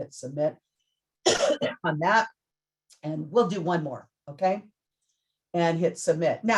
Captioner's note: coughs